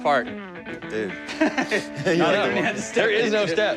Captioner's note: laughs